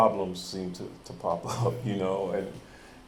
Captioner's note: chuckles